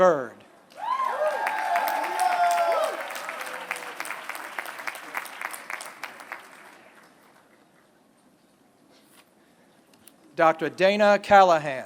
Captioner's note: applause